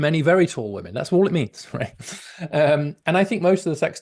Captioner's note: laughs